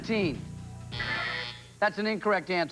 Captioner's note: buzzer